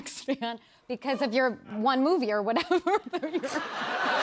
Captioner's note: laughter; laughing